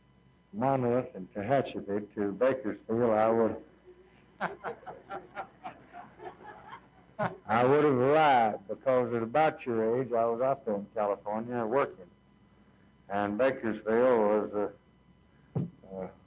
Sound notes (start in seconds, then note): 3.9 chuckles